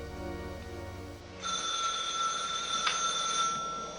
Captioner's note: ringing